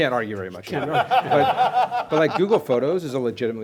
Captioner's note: laughter